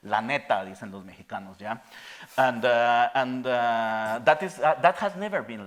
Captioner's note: speaking in Spanish